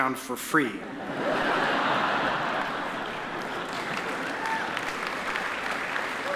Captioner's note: attendees laugh and applaud